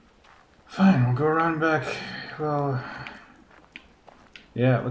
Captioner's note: sighing